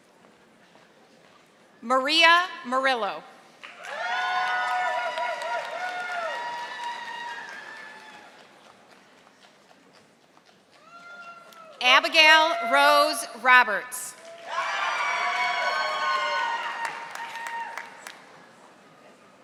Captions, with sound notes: Maria Marillo. (audience applauding) Abigail Rose Roberts. (audience applauding)